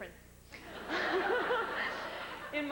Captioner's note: laughs